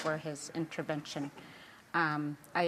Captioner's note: speaking indigenous languag